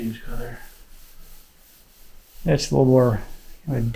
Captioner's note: cloth rustling